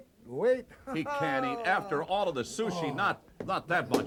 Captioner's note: laugh